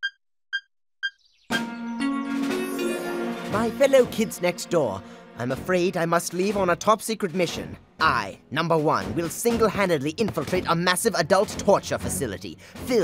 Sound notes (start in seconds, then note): none